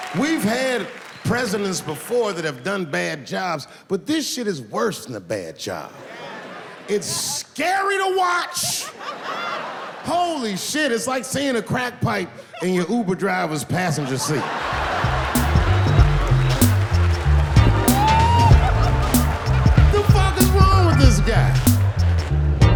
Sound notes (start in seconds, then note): 15.4 audience laughs; 18.1 upbeat music